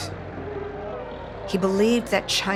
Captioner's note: people shouting